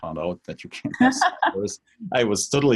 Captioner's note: host laughs